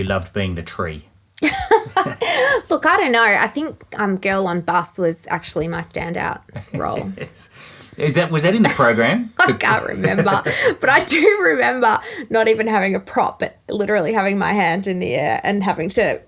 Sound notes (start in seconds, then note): 1.4 laughing; 8.5 laughing; 9.4 both laughing